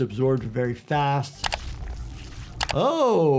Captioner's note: flesh squelching